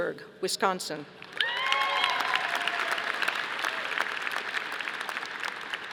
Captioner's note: audience applauding